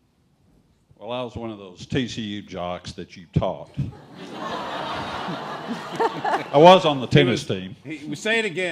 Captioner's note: laughing